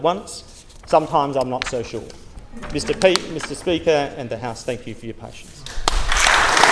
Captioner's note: applause